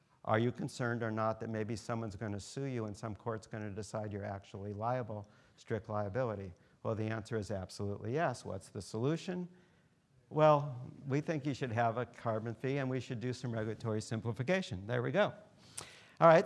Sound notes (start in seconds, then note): none